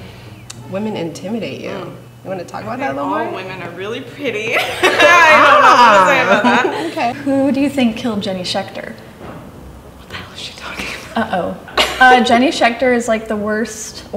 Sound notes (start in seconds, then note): 4.5 laughing